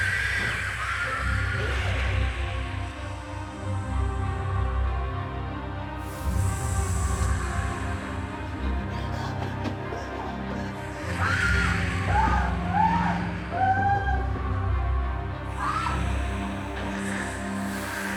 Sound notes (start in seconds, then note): 0.1 dramatic music; 11.0 screaming; 13.4 snake hissing